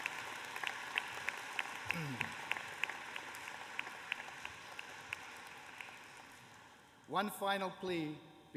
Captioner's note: applause